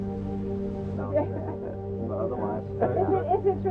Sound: team chattering

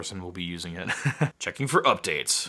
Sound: laughter

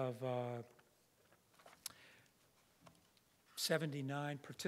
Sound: papers rustling

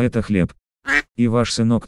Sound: quack

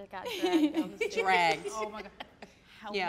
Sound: laughing

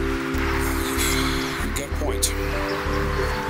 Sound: sighs

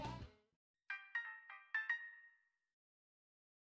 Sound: chime is heard

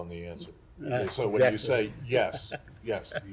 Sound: laughter

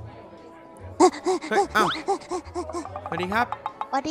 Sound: tired voice

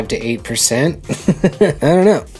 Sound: laughs

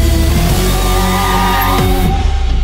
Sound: brakes squeak

